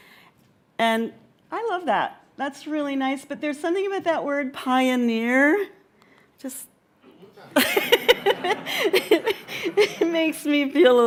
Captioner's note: laughter